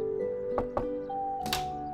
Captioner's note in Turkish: Kapı tıklaması